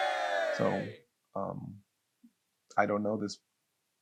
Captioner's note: cheering